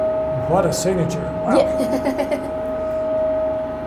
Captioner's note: laughs